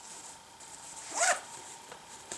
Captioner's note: zip